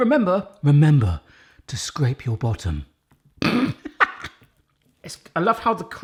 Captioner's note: laughs